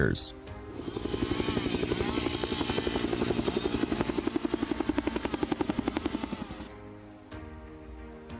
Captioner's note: sounds of chainsaw and helicopter